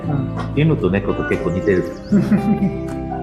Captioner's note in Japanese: 笑笑